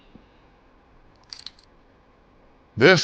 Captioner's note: chains clinking